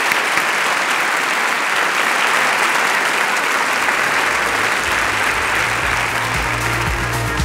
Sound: applause

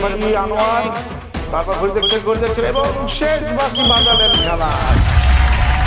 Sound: whistle

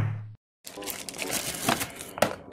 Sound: package crinkling; box flops on table

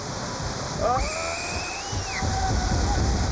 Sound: screaming

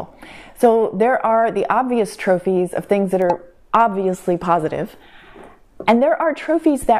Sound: pop

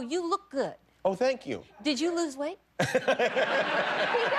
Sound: laughter

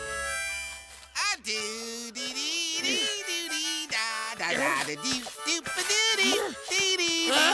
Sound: humming tune

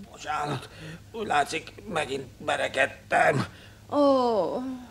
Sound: coughs

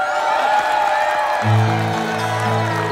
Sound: cheering

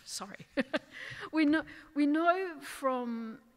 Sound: laughing

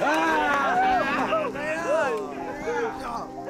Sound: boys cheering

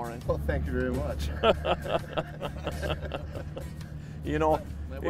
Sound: laughing

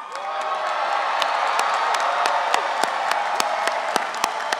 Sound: audience cheering

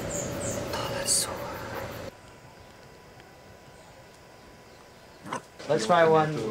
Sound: speaking in foreign language

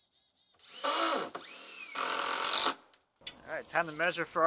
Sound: drill whirring

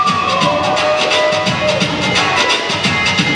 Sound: cheers

